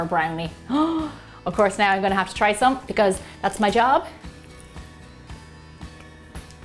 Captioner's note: gasps